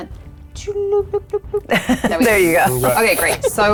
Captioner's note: murmuring